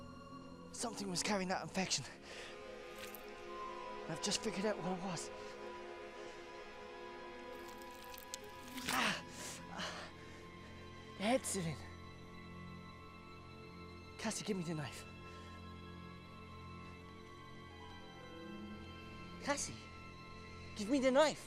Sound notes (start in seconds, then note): 8.1 groaning